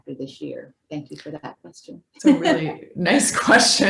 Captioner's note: laughs